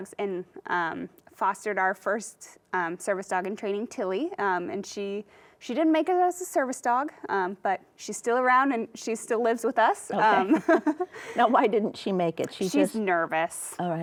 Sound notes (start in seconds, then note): 10.4 both chuckle